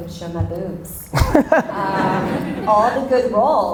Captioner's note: Gary and audience laugh